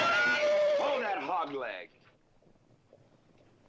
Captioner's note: horses neighing